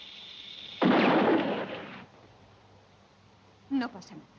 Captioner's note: golpes de arma